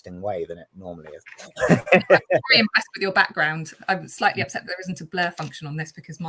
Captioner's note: laughs